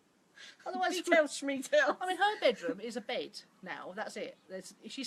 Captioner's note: laughing